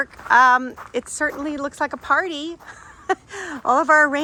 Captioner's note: laughs